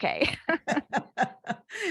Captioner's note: laughter